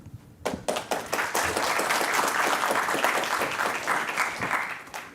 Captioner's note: applause